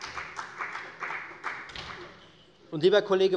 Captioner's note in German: Beifall bei der FDP